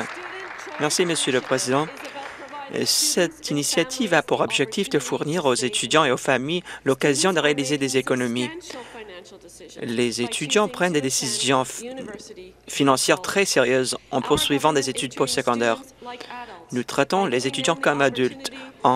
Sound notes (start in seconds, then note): 1.7 applause